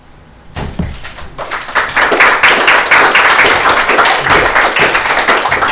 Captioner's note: applause